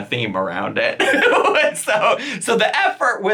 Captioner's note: laughing